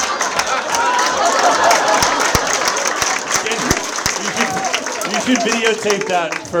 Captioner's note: Zach laughs; audience laughs; audience members laughing; audience applauds